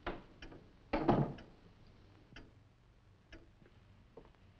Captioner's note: door thudding